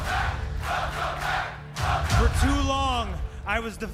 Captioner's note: crowd cheering